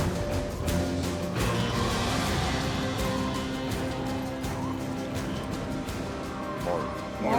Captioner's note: footsteps; wind blowing hard